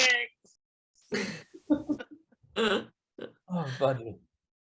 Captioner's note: actors laughing